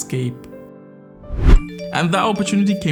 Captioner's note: phone dinging